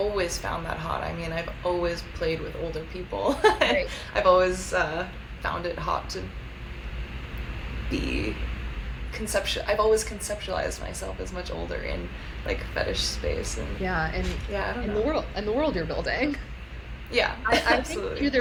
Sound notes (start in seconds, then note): 5.9 laughs